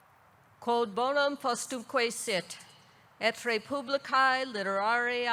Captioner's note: speaks in foreign language